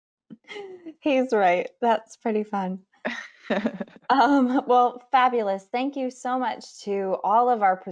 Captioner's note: laughter